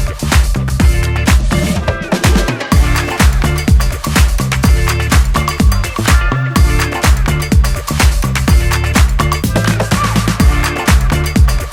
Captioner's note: applause